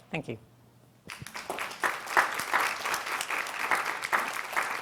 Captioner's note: audience applauds